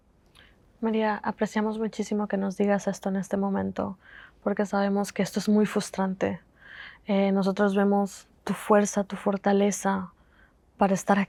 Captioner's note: Spanish